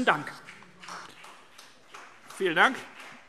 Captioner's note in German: Beifall CDU